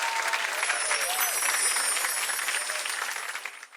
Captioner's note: chimes tinkling